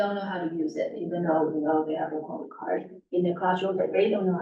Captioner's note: muffled voice